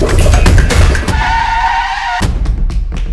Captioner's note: tyres screech